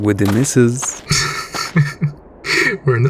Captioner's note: Smoke chuckles